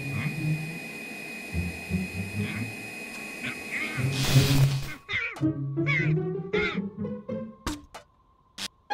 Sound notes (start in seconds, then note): 3.3 electric Burst